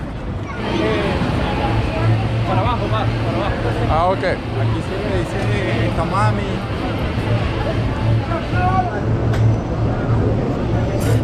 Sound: street noise

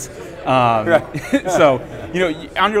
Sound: chuckles

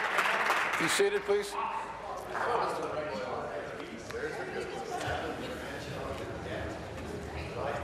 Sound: applause

